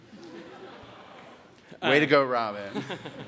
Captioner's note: audience laughs; audience laughs